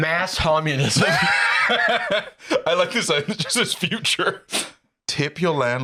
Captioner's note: laughs